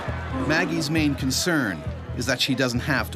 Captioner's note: voiceover